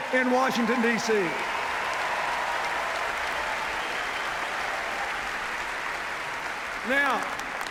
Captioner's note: cheers, applause